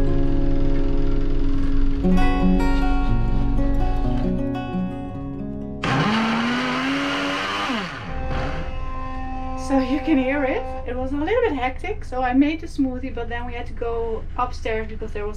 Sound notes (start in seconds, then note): 5.8 blender whirring; 7.4 ferry honking